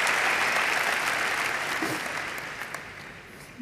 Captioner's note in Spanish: Fin de aplausos